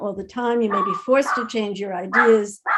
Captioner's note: dog barking